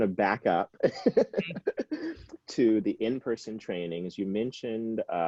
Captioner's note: laughing